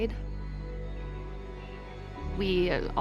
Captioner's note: birds continue chirping